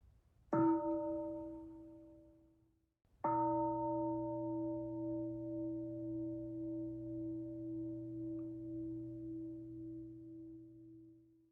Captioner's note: bell sounds twice